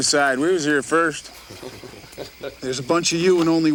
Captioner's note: gang members chuckle